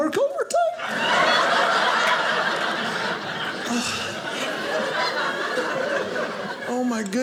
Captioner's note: audience laughing